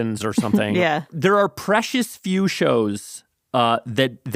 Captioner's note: laughs